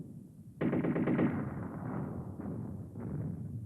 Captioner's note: machine gun fire on screen